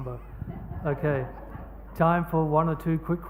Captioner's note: laughing